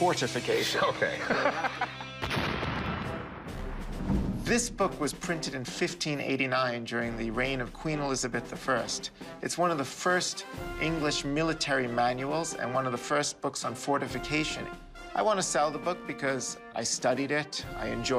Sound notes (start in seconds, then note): 1.1 laughs; 2.2 explosion